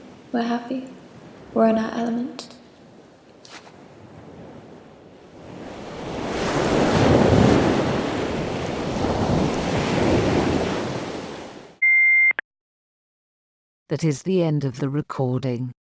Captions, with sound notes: We are happy. We are in our element. (Ocean waves crashing.) (Beep.) That is the end of the recording.